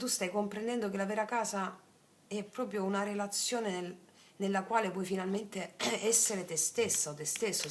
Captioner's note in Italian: schiarire la voce